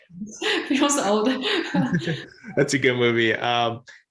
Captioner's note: laughs; both laugh